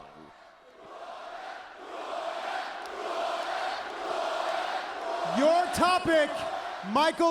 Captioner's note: crowd cheering